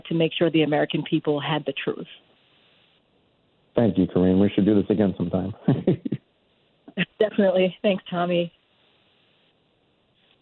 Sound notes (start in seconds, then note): 4.7 laughs